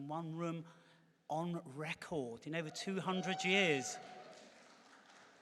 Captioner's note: cheering